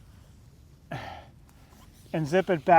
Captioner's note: breathes out